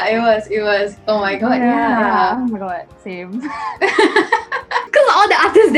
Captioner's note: laughs